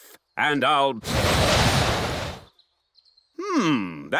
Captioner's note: blows